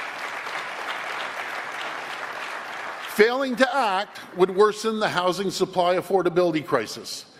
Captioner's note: applause